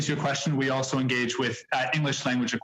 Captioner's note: speaking French